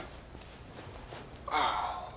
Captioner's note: sighing